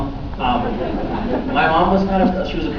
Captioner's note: laughs